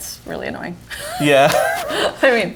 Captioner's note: laughs